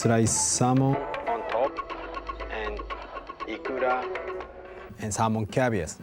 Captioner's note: speaks japanese